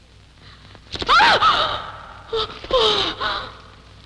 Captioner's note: yelping